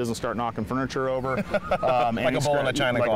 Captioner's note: laughter